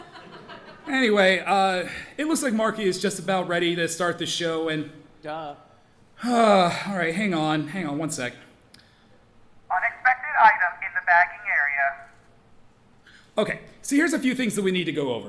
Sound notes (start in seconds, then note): 0.0 audience laughing; 6.2 sighs